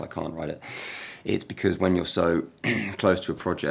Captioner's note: throat clearing